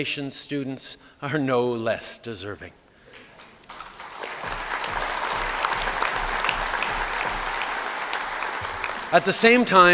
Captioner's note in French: Applaudissements